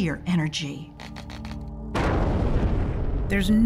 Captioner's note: explosion roars